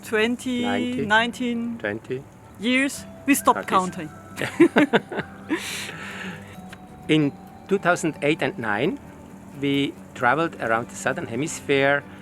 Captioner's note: chuckle